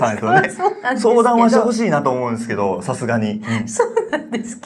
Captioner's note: laughs